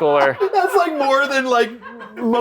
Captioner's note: laughter